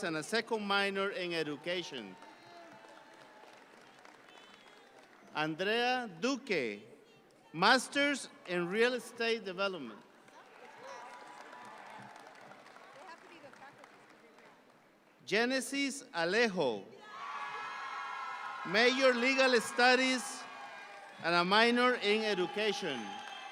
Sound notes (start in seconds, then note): 1.5 audience clap; 10.0 audience clap; 17.1 audience applauding